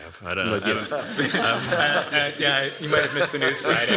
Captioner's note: laughter